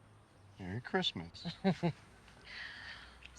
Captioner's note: Colleen chuckles